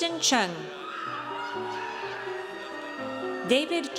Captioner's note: audience cheers